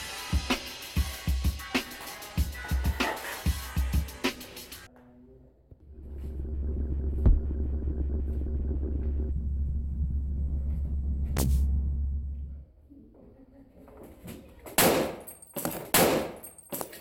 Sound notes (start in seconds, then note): 6.4 techno; 13.8 whack & thumping; 15.5 whack